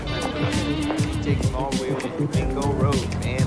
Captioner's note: snapping fingers